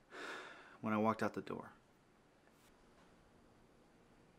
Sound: sighing deeply

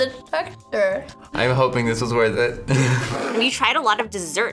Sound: laughs

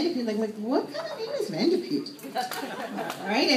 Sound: laughter

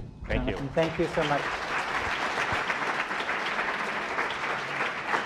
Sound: applause

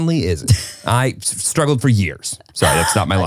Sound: laughs

